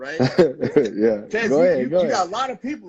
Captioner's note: laughing